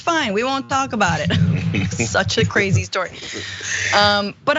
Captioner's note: laugh